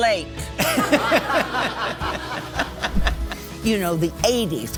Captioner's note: laughing; audience laughing